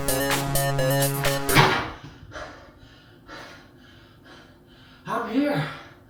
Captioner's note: door slams; panting